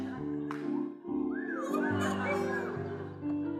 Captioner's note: whistling